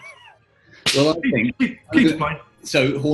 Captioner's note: chuckling; claps